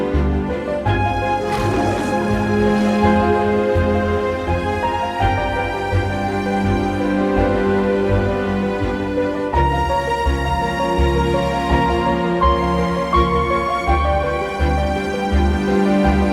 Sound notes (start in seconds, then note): 1.4 lion roar sound